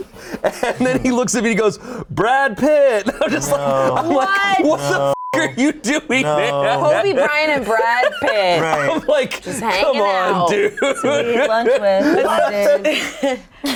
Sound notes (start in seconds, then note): 5.1 beep; 6.8 laughing